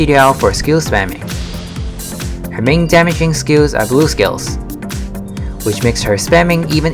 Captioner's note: gale